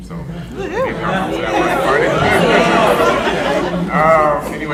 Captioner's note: audience cheering